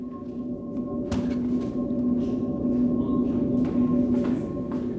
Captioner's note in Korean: 문을 '쿵' 친다